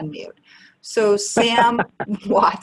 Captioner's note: laughs